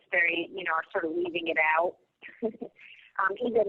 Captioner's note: laughs